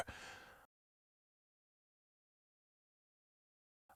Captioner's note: silence